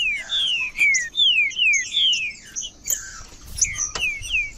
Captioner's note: trinca ferro cantando